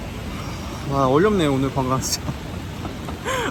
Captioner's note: sigh